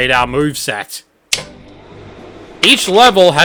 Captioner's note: projector booting up